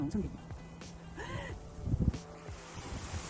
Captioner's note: gasp